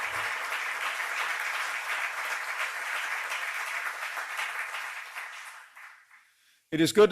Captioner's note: applause